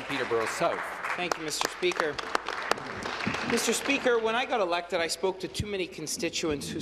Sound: applause

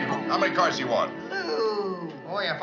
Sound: disapproving

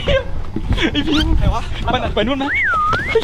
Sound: pat

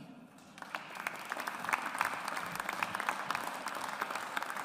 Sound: audience applauds

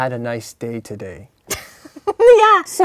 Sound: scoffs

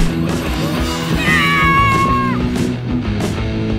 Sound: shouting

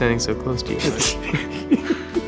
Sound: both laugh

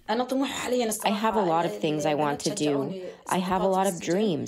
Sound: through translator

